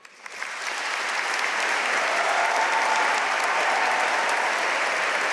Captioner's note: audience cheering and applauding